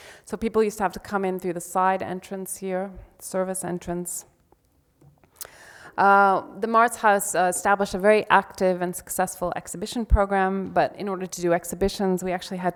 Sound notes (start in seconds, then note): none